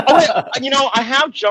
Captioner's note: laughing